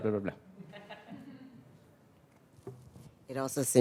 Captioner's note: audience laughing